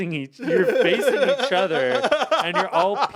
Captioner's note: Anthony laugh